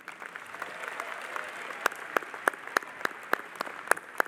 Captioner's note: audience applauding